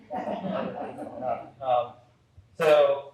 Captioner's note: audience laugh